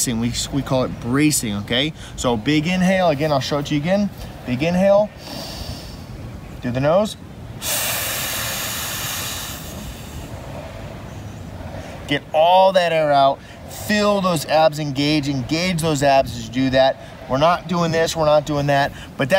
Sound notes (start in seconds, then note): 5.2 breathes in; 7.6 exhales long and slow